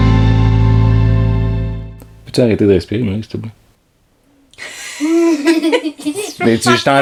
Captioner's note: laughs